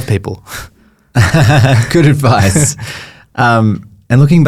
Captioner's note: laughs